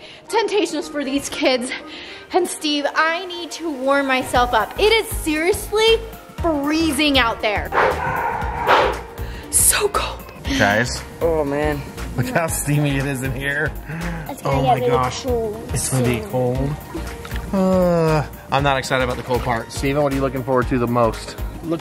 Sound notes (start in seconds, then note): 7.7 dog barks